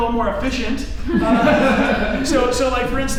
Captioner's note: laughing